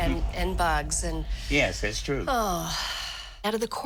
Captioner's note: sighs